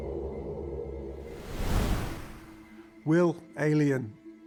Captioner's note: wind whooshing